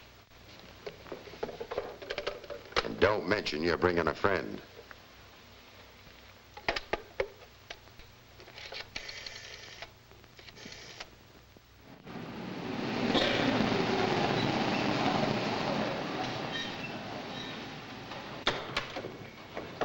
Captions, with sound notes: And don't mention you're bringing a friend. (rotary phone dialing) (car rumbling)